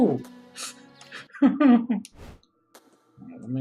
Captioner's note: laughs